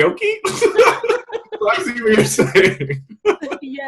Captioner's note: all loudly laugh